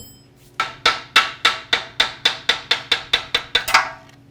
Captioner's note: banging